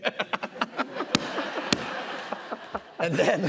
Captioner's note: laughter